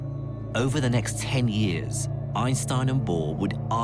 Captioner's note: voiceover